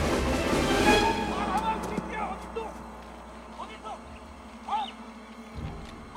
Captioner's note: yelling in Korean